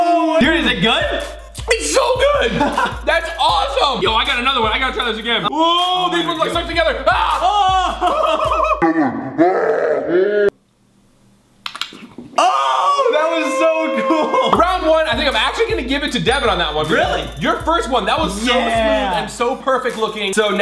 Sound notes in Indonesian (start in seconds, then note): 7.2 tertawa; 11.7 mencucup